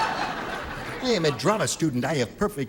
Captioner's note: laughter